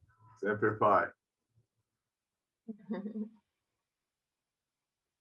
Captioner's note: speaks in foreign language